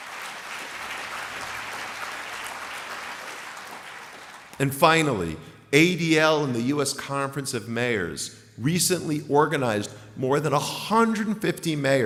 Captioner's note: applause